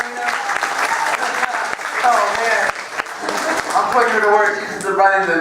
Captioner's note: applause